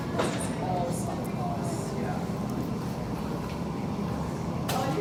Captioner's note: people continue chattering